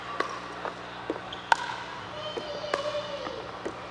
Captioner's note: ball bouncing